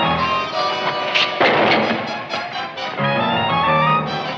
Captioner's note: bucket clangs